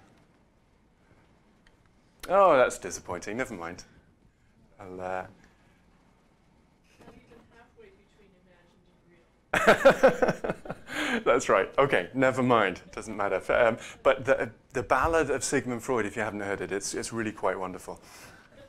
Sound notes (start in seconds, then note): 9.6 laughs